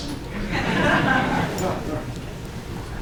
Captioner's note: audience chuckles